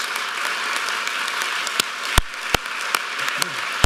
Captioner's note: applause